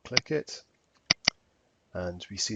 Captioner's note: mouse clicking